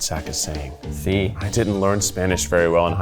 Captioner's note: speaking Spanish